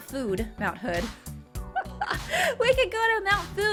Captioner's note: laughing